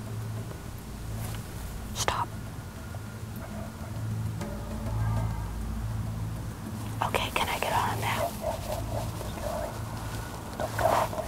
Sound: whispering

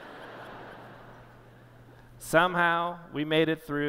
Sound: laughter

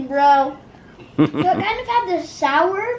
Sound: man laughs

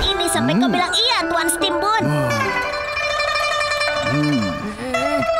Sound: Steam Bun murmurs; Wilk groans

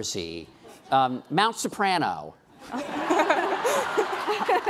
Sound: laughing

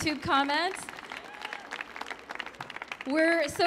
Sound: audience applauds

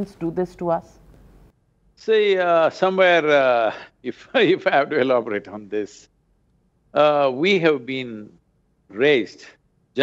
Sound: laughs

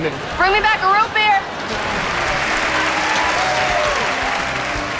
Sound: applauding

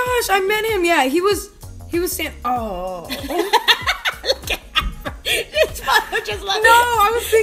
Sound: laughter

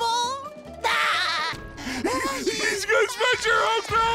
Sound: laughing

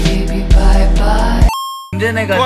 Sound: arcade game coin noise

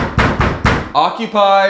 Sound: knocking

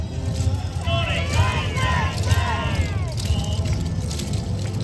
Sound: chants: Hi! Hi! Hi!

